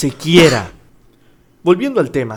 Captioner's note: cough